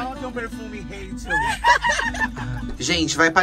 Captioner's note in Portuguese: risos